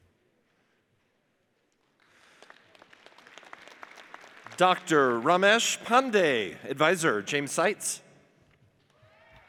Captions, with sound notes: (audience applauds) Dr. Ramesh Pandey, adviser James Sites.